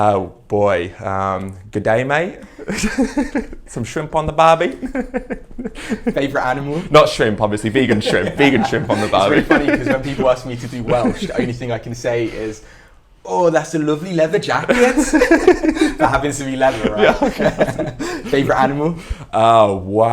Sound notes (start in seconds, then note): 2.4 giggles